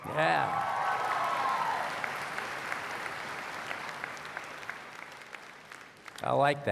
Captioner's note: cheers and Applause